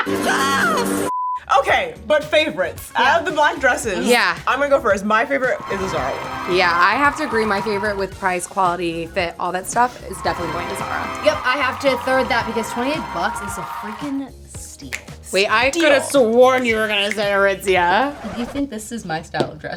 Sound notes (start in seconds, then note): 0.0 laughing; 0.6 color bars beeping; 5.6 fanfare playing; 6.7 fake audience cheering; 14.8 snapping fingers; 18.1 record scratching